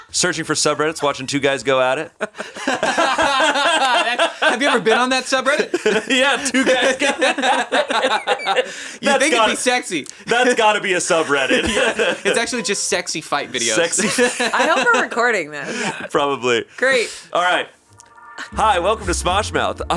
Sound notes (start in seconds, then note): 2.7 all laughing; 7.7 laughter continues; 11.9 laughs; 13.4 laughs